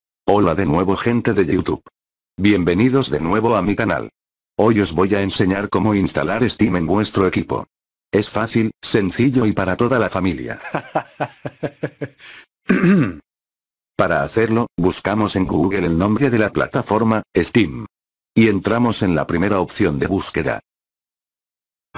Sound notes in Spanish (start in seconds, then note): 13.0 risas